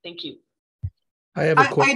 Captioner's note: mic thumps